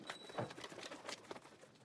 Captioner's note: bell rings